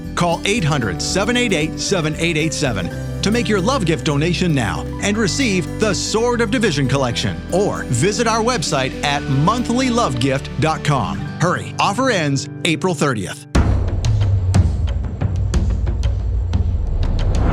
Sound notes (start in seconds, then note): 13.6 drums beating; 13.6 whoosh